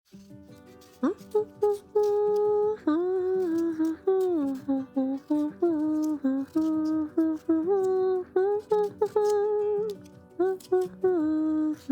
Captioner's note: Briony humming a song